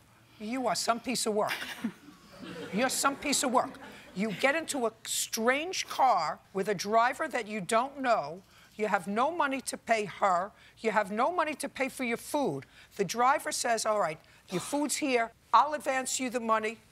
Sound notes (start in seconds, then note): 1.5 chuckles